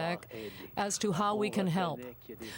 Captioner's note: speaking french